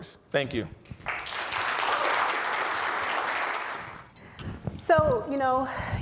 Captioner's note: audience applauds